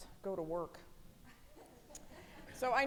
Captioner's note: audience giggling